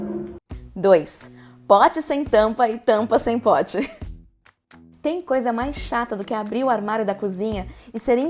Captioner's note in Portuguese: risos